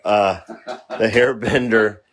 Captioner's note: laughs